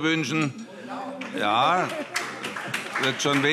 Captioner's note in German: Vereinzelter Beifall